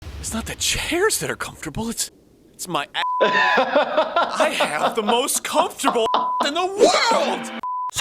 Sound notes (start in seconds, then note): 3.0 beep; 3.2 laughing; 6.0 beep